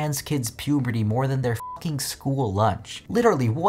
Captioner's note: beeps